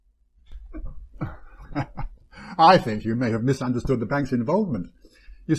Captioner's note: chuckle